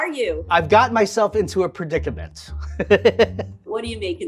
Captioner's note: laughing